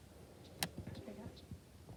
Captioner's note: none